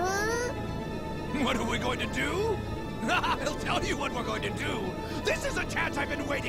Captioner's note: laughing